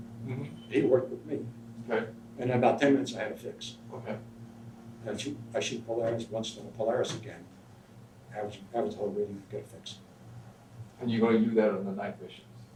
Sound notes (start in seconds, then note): none